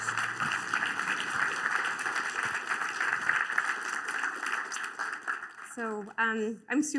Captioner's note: applause